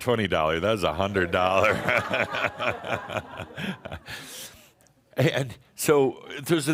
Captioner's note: Adamus chuckles; more chuckles